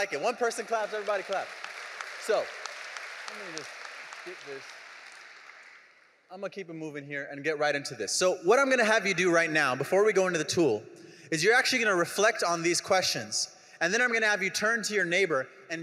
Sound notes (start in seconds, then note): 1.6 audience applauding